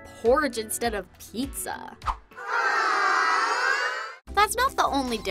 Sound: crowd awing

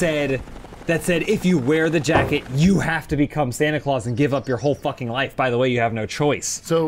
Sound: bonk

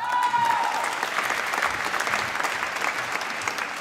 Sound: applause

